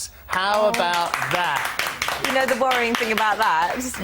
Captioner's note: applause